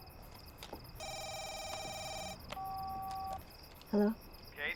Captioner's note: phone ringing; long beep